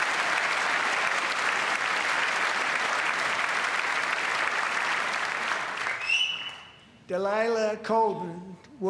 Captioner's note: applause